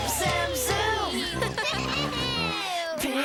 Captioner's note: all laughing